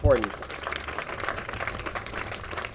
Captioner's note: applause